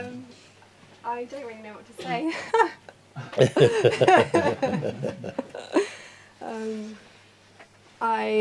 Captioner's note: Mooji laughs